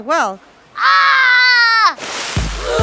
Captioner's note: gasp